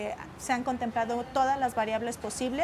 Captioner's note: speaking alternate language